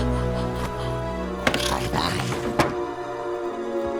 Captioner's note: chittering